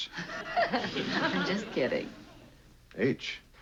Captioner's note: laughs